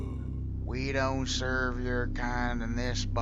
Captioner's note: totally unoffensive accent